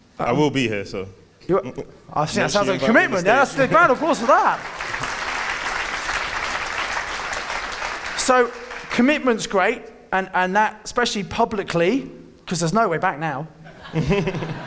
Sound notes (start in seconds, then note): 5.2 audience clapping; 13.7 audience laughing